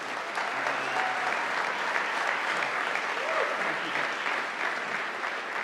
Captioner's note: audience applauding